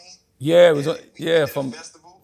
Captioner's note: on phone